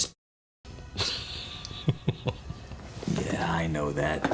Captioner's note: chuckles